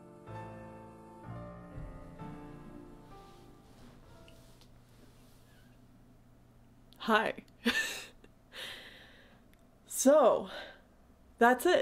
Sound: laughs

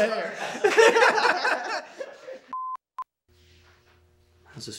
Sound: laughter

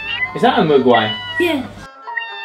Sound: meowing

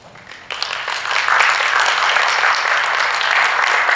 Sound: applause

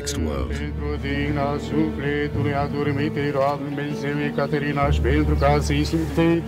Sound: people chattering in foreign language

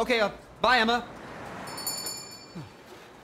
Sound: bell Chimes

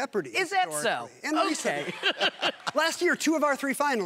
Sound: chuckles

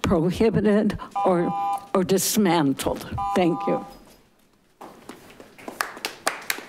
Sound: audience applauding

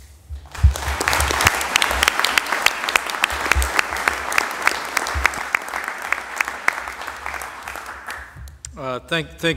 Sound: applause

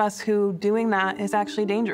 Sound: siren

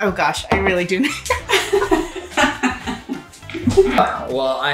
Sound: laughing

